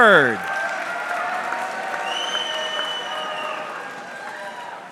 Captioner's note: audience clapping